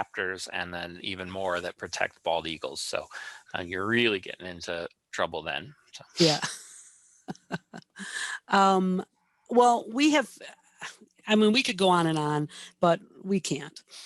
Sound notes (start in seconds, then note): 7.3 laughs